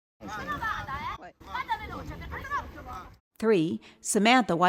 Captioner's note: Yelling in Italian